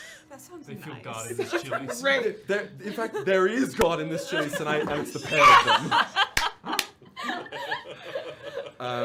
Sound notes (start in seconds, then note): 6.2 laughter